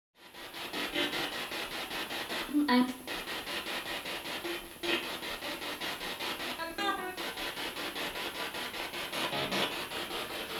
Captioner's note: sound of the Spirit Box in the background